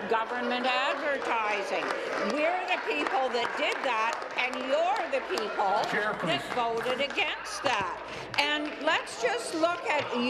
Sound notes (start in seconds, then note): 6.5 applause